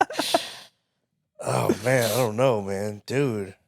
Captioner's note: laughing